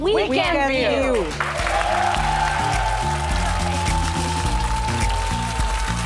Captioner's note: cheers and applause; audience applauding